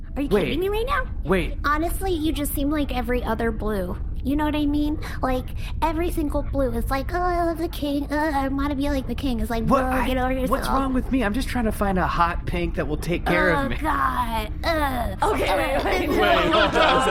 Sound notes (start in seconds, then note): 15.2 laughing